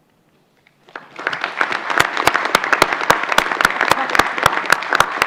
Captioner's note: applause